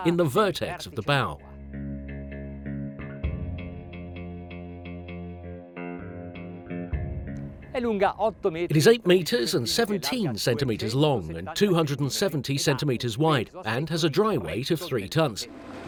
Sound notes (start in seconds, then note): 8.1 speaks in foreign language